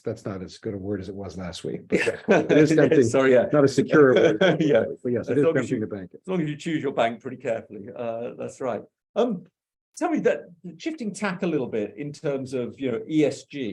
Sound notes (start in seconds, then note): 1.9 laughs; 4.9 laughs